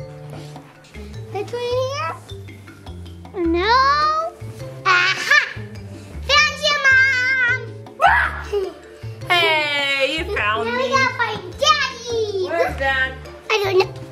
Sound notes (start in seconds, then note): 7.9 exclaims